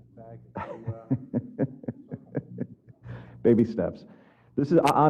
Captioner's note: laugh